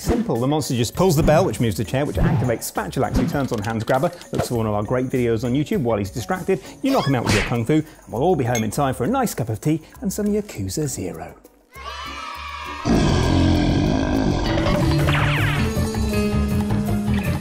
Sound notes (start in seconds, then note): 12.8 monstrous roar; 14.5 chase music